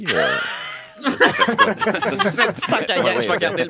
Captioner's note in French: rires